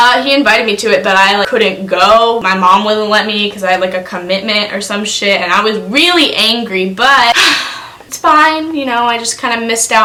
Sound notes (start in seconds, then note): 7.3 sighs